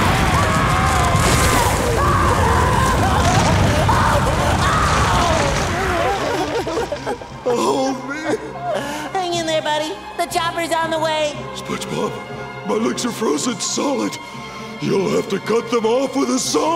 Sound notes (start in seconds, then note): 0.0 rumbling, screaming; 5.4 crying